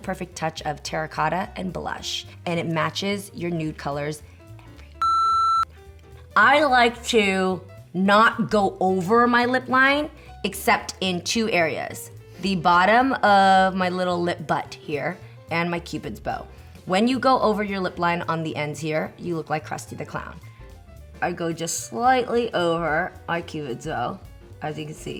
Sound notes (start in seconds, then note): 3.8 whispers; 5.0 beep